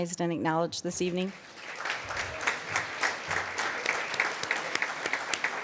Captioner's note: applause